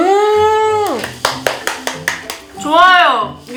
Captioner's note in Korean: 짝짝짝짝짝짝짝